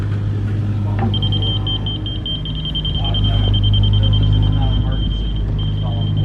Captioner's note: tools beeping loudly